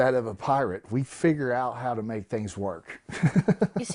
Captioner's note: laughs